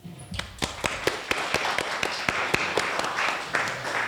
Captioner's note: applause